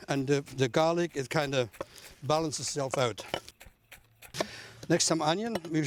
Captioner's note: chopping